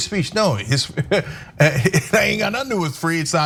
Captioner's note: laugh